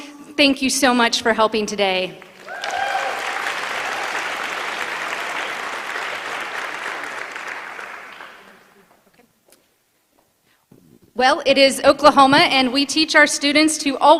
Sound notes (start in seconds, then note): 2.2 applause